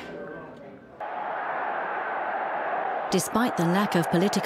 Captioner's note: crowd cheering